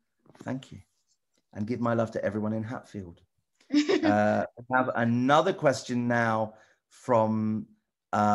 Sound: laughs

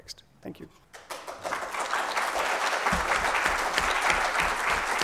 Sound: applause

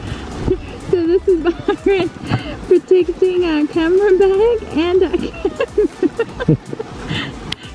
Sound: laughing

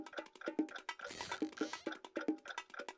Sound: clock ticking

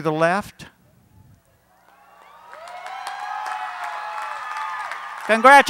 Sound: cheering, Applause

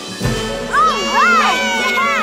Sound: cheering

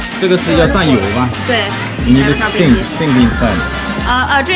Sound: speaking Chinese

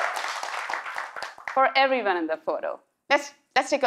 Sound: cheers and Applause

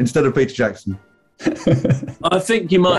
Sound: chuckling

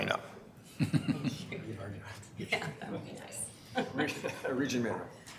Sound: members laughing

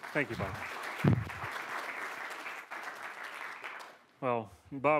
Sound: applause

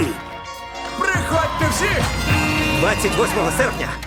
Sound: horn honks

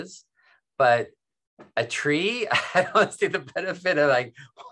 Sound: chuckles

